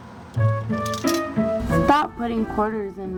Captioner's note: coin clinks